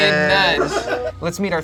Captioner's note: audience laughing